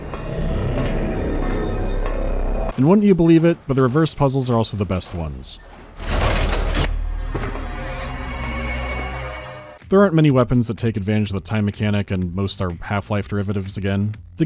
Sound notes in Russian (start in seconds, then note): 0.0 гул останавливающей время энергии; 5.9 гул обращающей время энергии